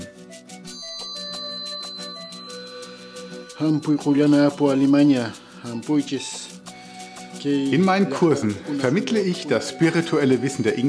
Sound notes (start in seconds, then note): 3.9 speaks Quechua